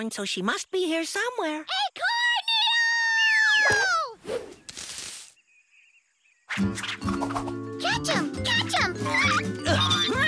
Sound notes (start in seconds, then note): 6.2 leaves rustle; 9.6 giggles